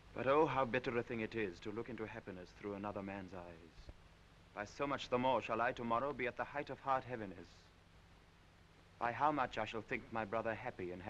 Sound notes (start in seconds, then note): none